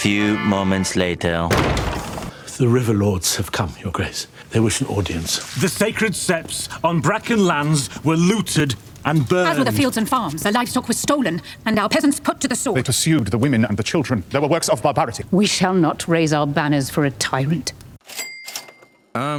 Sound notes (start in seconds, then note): 1.5 door opens